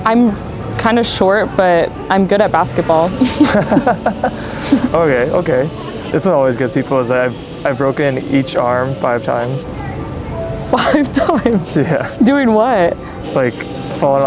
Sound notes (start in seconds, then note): 3.2 both laughing; 10.7 laughs